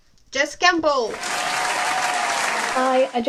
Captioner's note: applause